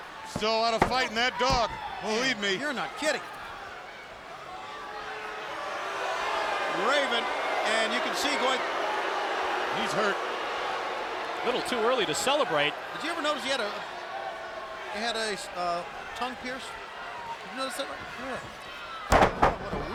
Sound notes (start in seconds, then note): 4.8 crowd booing